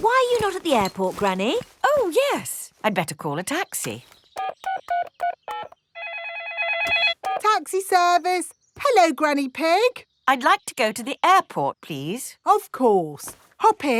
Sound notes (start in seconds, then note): 5.9 phone ringing; 6.0 dialing